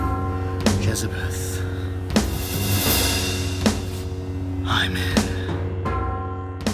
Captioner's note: chuckles